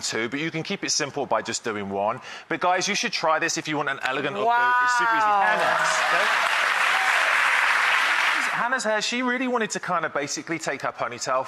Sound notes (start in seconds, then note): 5.4 applause